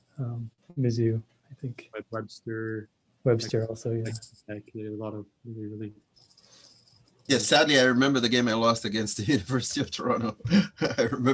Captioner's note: laughter